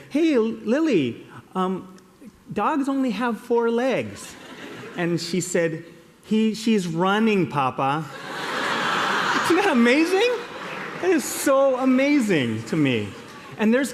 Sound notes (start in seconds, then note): 8.1 laughter